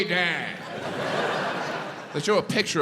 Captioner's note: crowd laughs